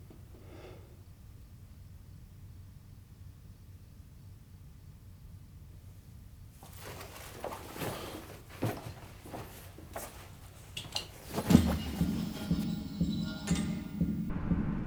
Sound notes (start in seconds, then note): 6.6 backpack shuffling; 11.6 stirring music